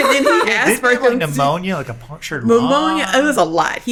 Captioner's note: laughing